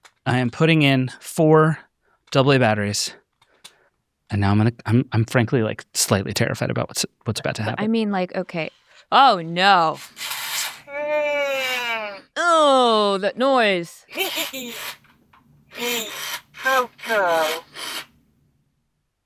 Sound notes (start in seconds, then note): 10.0 Furby babbling; 10.2 machinery whirring; 14.1 laughs